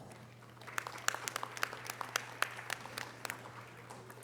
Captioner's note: audience applause